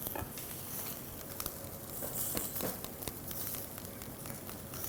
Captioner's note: sizzling noise